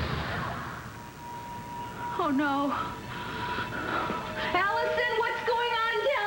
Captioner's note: gunshot